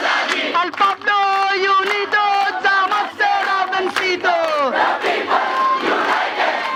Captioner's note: indistinct chanting